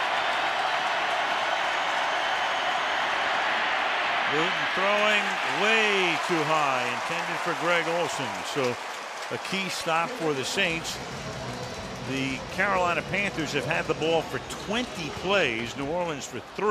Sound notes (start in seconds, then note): 11.5 pa announcement